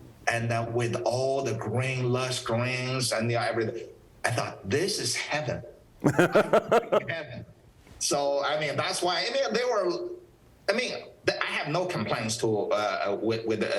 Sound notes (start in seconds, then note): 6.0 laughs